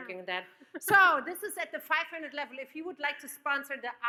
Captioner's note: laughs